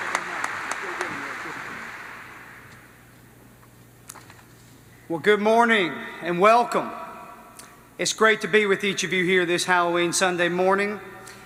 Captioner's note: applause